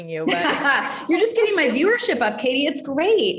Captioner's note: both laughing